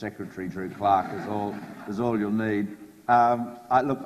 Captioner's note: audience laughs